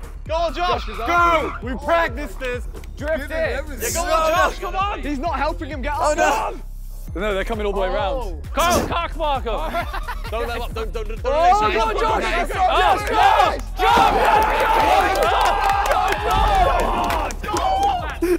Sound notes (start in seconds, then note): 9.5 contestants laughing; 13.9 contestants clapping and cheering